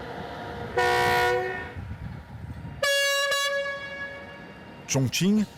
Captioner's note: train horn bellowing